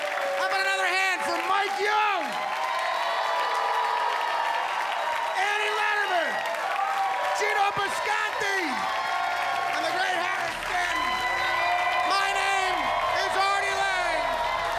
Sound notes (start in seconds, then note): 2.1 cheers and applause